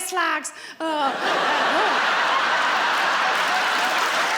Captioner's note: laughing